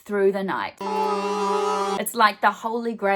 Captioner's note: buzzer